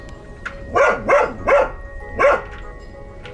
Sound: barks

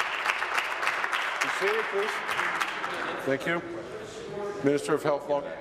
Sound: applause

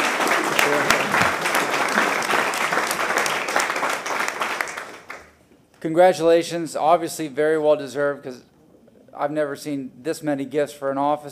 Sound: applause

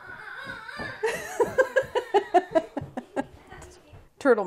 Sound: laughs

